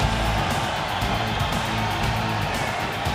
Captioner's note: crowd cheering